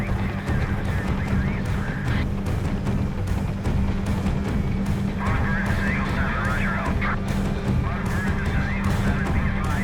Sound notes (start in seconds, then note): 5.1 radio dispatch chatter